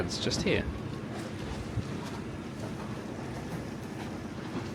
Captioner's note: water lapping